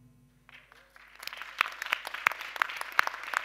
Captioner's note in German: Applaus